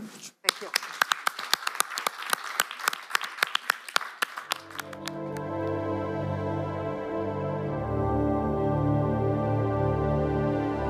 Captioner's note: applause